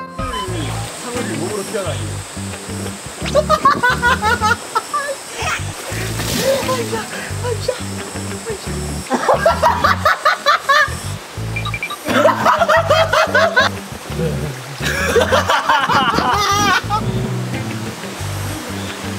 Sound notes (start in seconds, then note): 5.7 fails to hold in laughter